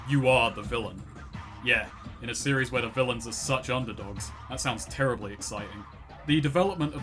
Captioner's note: Sarcastic